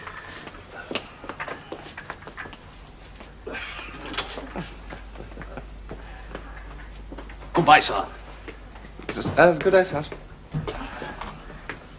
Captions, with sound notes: (Raffles chuckles) - Goodbye, sir. - Good day, Sergeant.